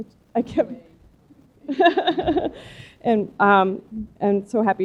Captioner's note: laughter